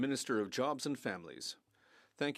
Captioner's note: speaking French